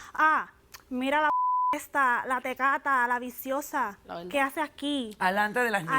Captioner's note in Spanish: Bip